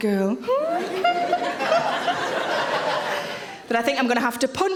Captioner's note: audience laughing